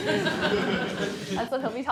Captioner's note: laughter